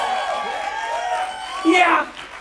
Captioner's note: audience applauding